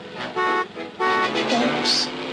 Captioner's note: horn honking